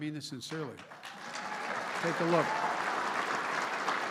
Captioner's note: applause